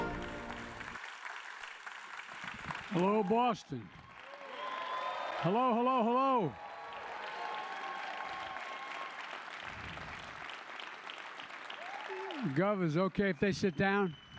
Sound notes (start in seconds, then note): 4.4 applause